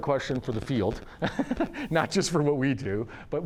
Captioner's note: laughs